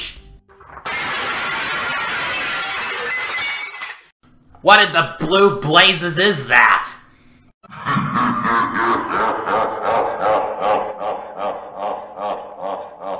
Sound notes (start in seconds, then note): 0.6 glass breakage; 7.7 evil laughter